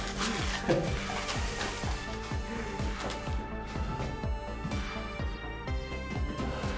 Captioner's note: tense music; dramatic music; Hugh chuckles